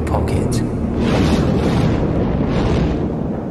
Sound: flames Bursts

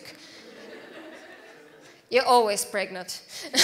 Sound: audience laughs

